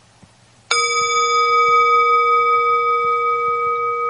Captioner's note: bell chiming